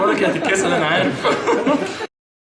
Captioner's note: laugher